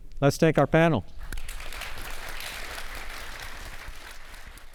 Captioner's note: attendees clapping